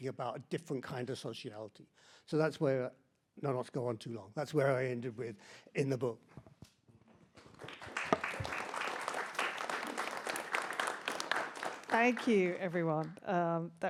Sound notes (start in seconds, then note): 7.4 audience applauding